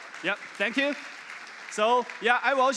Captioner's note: applause